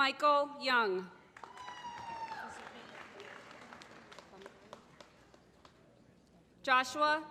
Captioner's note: applause